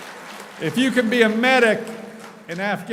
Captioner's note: applauding